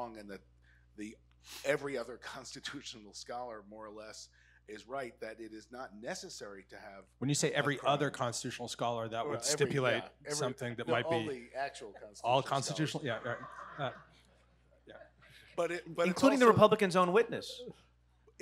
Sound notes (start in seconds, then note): 12.9 audience laughing